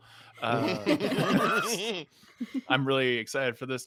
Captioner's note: laughing